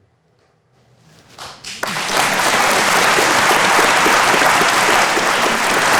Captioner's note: audience applauding